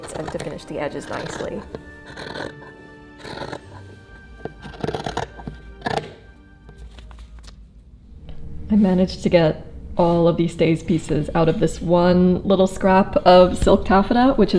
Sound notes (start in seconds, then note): 2.0 classical music; 2.0 scissors grating; 6.7 paper rustling